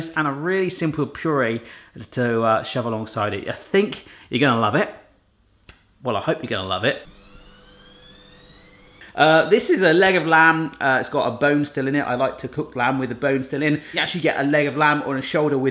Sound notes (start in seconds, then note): 7.2 squeaking sound